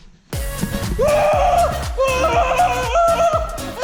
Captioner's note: screams